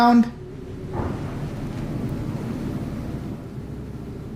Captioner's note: knock